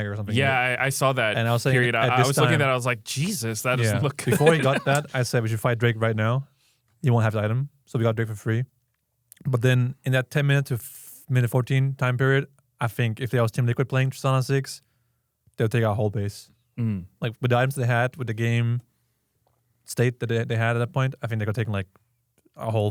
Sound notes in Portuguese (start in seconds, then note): 3.1 risos